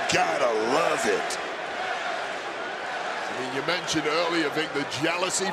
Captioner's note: crowd chants "nxt"